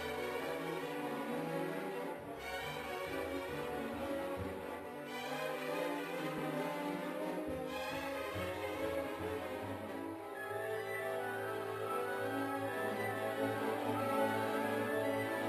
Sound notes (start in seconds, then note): none